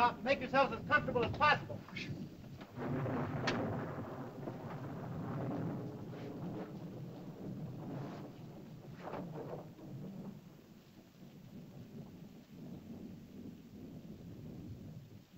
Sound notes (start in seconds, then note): 2.7 thunder rumbles softly